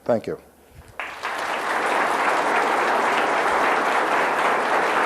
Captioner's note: audience applauds